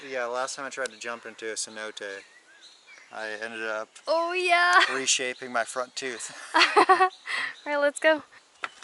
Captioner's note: laughter